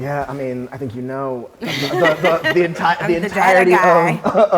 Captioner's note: all laughing